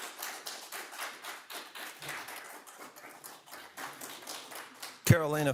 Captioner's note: audience applauding